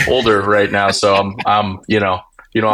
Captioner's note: laughing